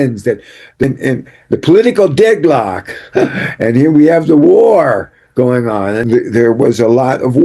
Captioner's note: clears throat and laughter